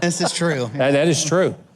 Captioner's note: male Voice